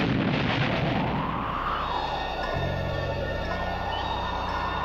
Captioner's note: wind howling